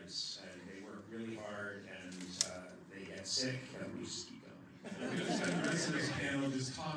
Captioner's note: laughter